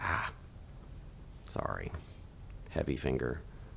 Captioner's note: none